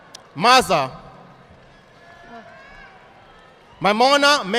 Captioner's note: audience applauding